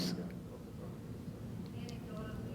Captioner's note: faintly speaking